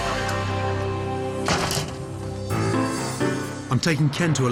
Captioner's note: door shuts